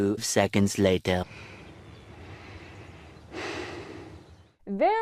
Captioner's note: heavy breathing